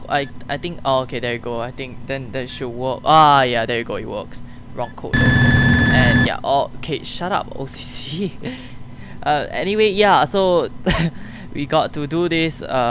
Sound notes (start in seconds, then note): 6.6 nervous laughs